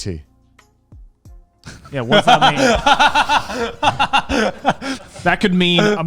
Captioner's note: laughing